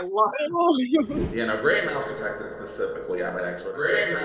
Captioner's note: echo-y